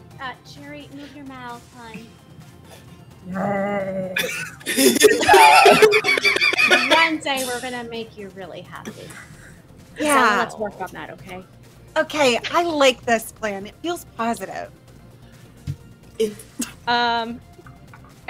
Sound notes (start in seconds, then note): 4.2 laughter